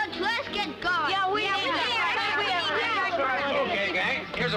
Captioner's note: indistinct chatter